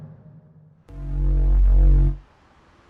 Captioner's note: portal noises